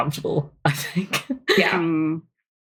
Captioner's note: laughs